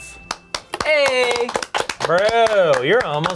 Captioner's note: applause